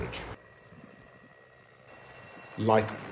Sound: drone whirring

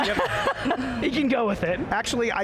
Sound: laughing

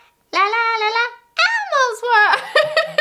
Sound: cracks voice

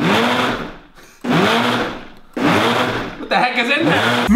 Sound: blender grinding

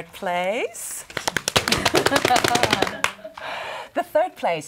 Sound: imitating drum roll by clapping hands on legs

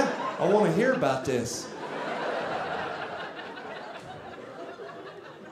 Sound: audience laughing

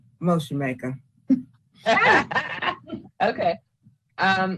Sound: laughing

